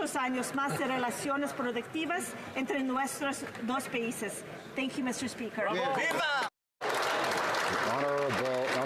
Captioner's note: speaking alternate language